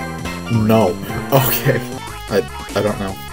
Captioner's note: laughing